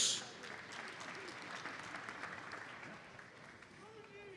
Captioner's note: audience applauds